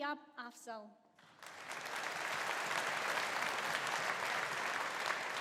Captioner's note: audience applauding